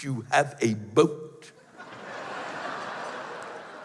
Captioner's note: laughter